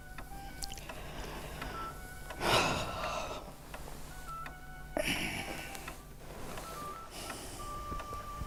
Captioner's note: light classical music in background; sighing